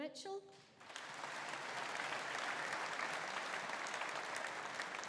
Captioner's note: audience applauding